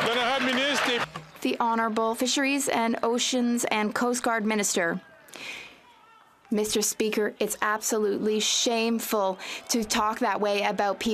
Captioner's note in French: applaudissements